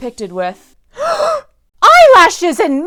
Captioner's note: gasp